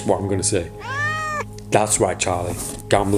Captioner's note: cat meows